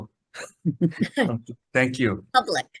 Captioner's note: chuckles